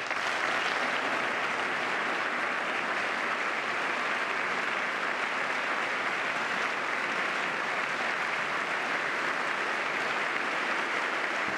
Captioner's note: applause